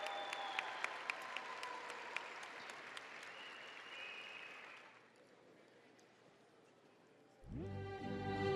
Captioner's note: audience applauding and cheering